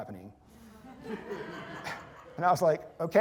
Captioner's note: laughter